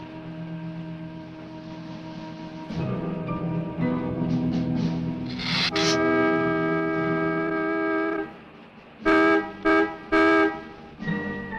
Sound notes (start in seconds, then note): 5.7 car honking